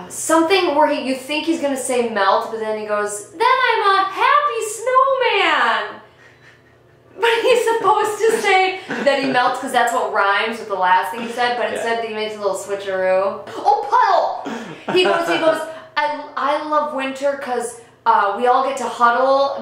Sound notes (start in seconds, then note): 6.2 both laughing; 14.4 laughing